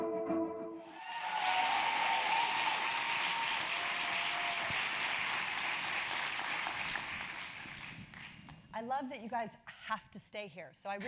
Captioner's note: applause